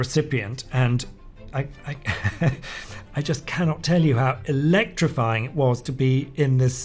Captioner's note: laughs